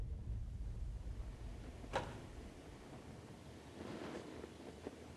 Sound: rustling

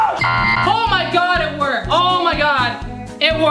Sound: screams; beep; suspenseful music note

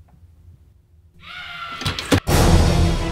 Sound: screaming; frantic music

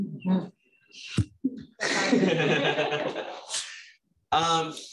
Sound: laughter

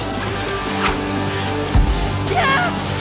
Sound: screams

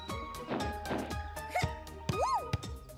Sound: grunting

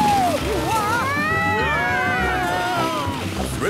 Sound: all screaming excitedly

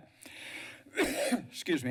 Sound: coughs

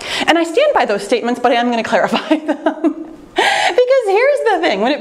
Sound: laughs

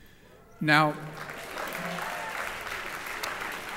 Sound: applause

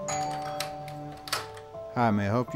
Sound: door bell rings; door handle clicks

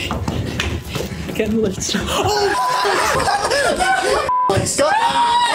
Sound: loud shouting

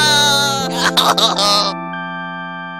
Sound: Cries of abandonment and fear of Toad

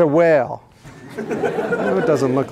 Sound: laughter

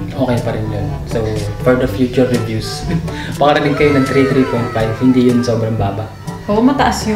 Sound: chuckles

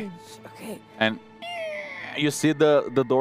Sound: squeaking

